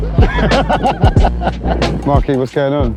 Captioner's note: laughing